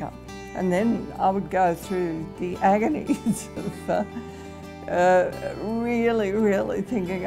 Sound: laughs

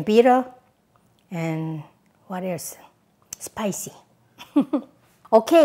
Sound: laughs

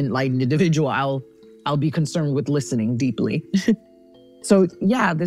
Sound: chuckles

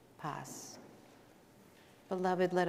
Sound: speaking in Spanish

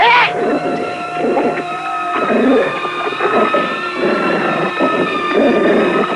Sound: shouting; snarling continues

